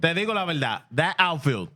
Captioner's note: speaking Foreign Language